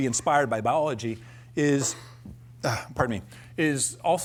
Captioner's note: coughs